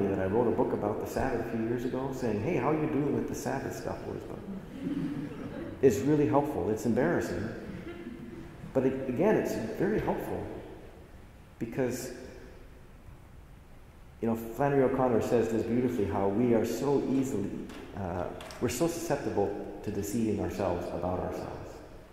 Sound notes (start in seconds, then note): 4.3 assembly laughs